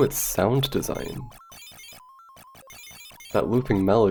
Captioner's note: xevious soundscape